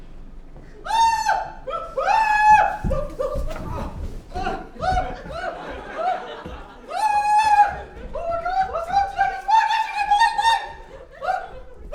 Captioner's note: jora screech of fear; audience screech of fear